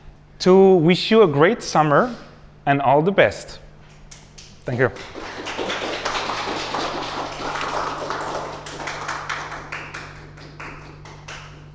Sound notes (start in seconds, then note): 4.3 applause